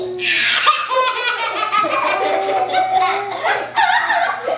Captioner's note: children laughing